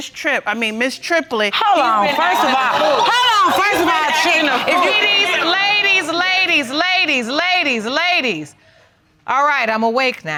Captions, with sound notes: I mean, Ms. Triplett. Hello, first of all. (AUDIENCE EXCLAIMING) Hello, first of all. Ladies, ladies, ladies. Ladies, ladies, ladies. All right. I'm awake now.